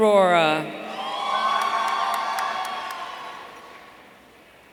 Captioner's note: audience cheering